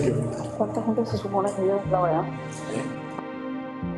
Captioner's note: lady scientist speaks in foreign language